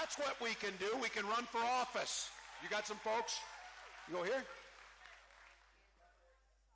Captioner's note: cheering